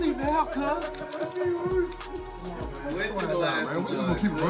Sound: laugh

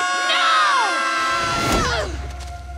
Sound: screaming

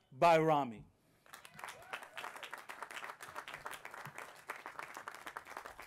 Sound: applause

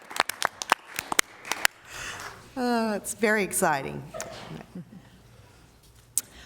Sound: applause

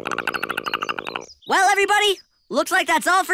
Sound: chattering

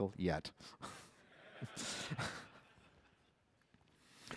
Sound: laughter

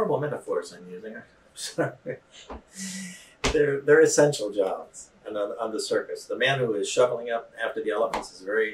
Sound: laughter

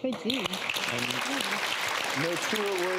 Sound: audience claps

